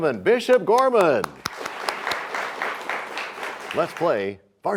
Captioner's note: applause